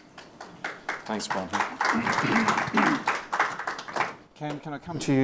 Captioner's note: audience applauds